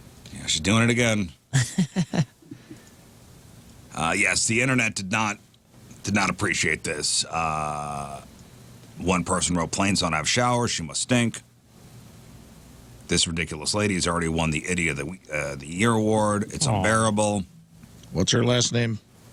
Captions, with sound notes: She's doing it again. (Laughter) Yes, the internet did not appreciate this. One person wrote, "Plains don't have showers. She must stink." This ridiculous lady has already won the IDEA-- the year award. It's unbearable. What's your last name?